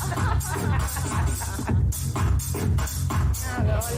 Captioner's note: group Laughter